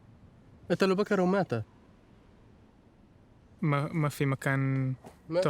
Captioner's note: speaking foreign language